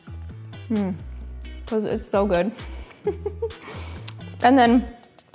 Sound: giggles

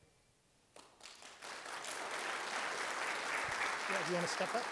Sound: audience applauds

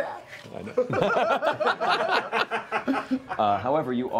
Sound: laughter

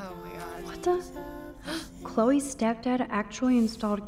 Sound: gasps

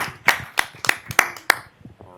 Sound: applause

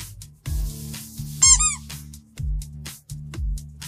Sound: apple squeak

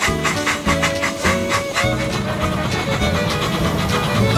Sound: train chugging

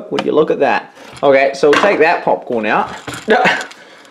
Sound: laughs

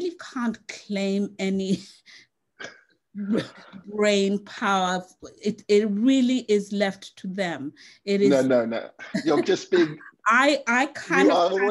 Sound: laughs

